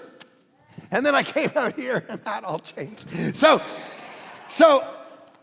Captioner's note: congregation laughing